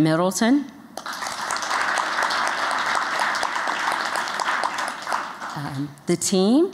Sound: applause

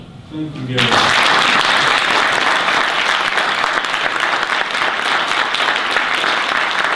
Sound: audience applause

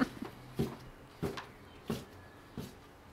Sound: footsteps on wooden stairs

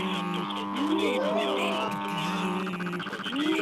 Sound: buzzer

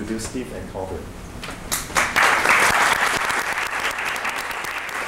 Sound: applause

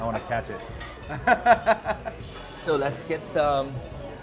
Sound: laughing

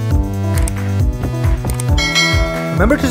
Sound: click; bell dings

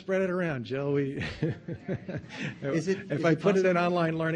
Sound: laughing

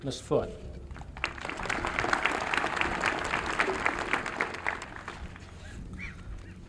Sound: applause

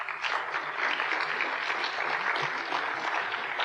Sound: applause

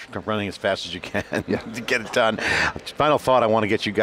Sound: laughing

